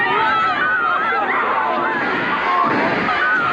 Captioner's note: screaming